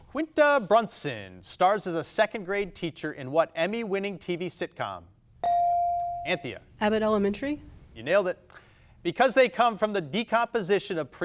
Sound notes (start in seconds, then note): 5.4 bell dings